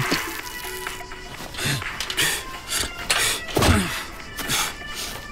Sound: man humming; tinny upbeat music; man panting; people grunting

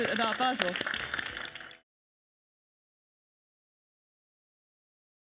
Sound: audience applauds

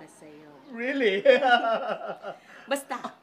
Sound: laughs

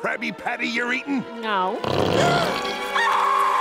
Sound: gasps; screams

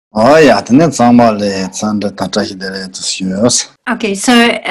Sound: speaks in foreign language

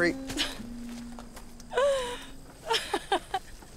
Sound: laughs

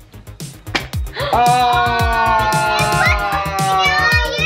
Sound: everyone screaming

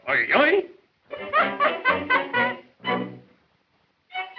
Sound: laughs

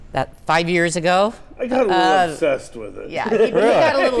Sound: laughs

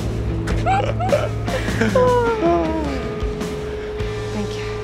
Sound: laughing

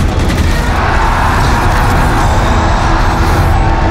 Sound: crowd cheering

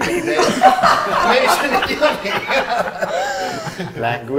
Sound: laughter; all laugh

